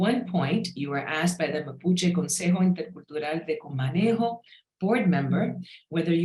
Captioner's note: speaks in Spanish